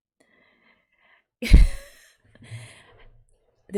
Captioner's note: laughs